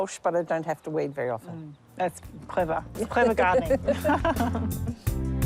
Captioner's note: laughs